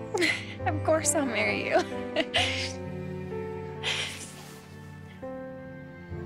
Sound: laughs

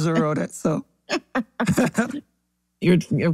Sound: laugh

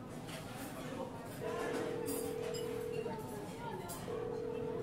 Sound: phone ringing

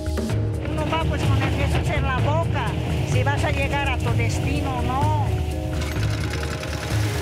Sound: dramatic music; speaking in foreign language; engine rumbling

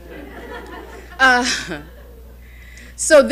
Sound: audience laughing

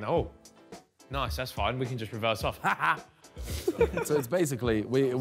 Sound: laughs

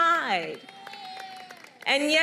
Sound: applause

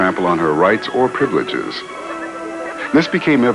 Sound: children laughing

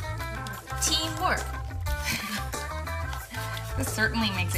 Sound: laughing

